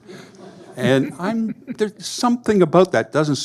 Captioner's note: audience laughing